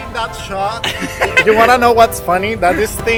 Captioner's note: laughing